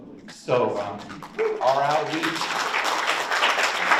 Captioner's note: audience applauds